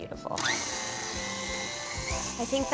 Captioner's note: mixer whirring